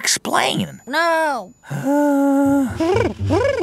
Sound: groan/sigh

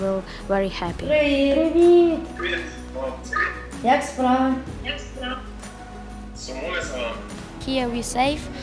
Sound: all speak ukrainian

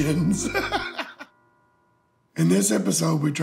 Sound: laughter

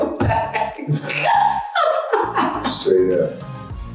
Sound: laughing

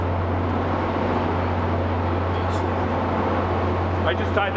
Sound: wind howls

